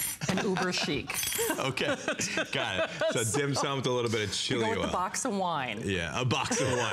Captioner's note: laughter